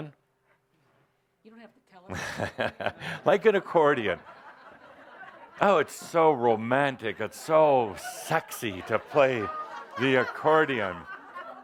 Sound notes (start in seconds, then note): 3.1 chuckling; 4.6 laughter